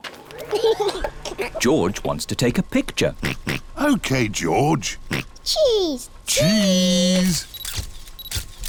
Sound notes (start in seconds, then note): 0.5 giggles; 3.2 oinks